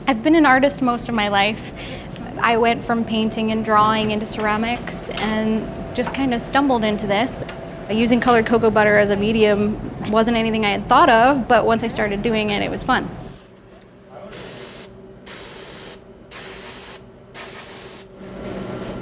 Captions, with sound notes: I've been an artist most of my life. I went from painting and drawing into ceramics, and just king of stumbled into this. Using colored cocoa butter as a medium wasn't anything I had thought of but once I started doing it, it was fun. (cocoa spraying, hissing)